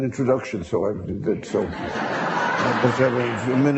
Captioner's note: audience laughing; laughter drowns out speaker